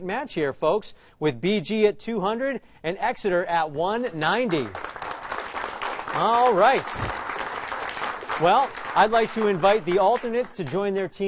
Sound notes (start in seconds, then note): 4.4 applause